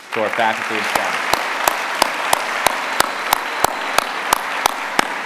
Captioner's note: applause